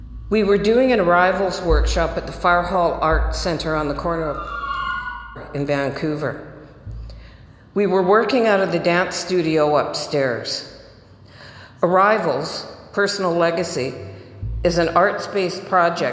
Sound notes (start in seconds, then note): 4.3 sirens